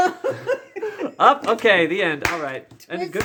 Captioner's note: laughs; claps slowly